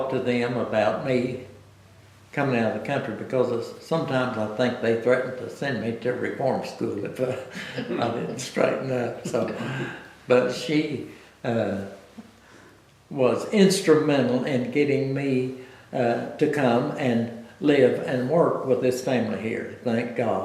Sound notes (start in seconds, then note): 9.4 laughs